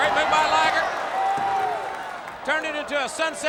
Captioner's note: footsteps plodding; crowd cheering; hands thudding